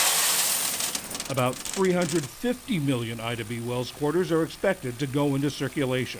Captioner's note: voice-over